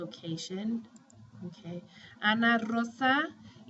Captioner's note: speaking spanish